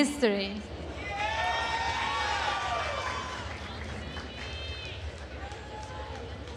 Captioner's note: attendees cheering and applauding